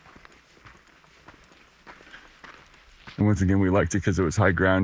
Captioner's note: footsteps crunching